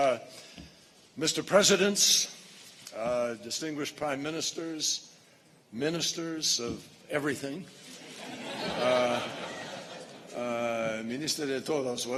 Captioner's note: laughter